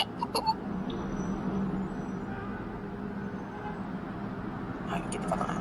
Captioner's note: distant car honks